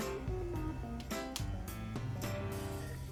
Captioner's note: cracks fingers